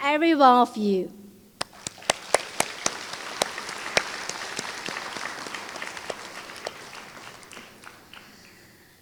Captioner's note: applause